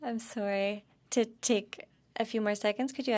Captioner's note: speaking in French